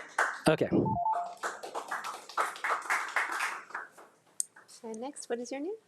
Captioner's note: crowd applauding